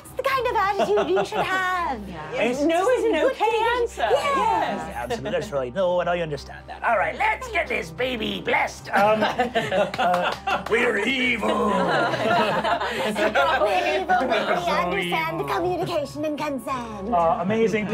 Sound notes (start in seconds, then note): 9.0 laughing; 9.8 clapping; 13.0 laughing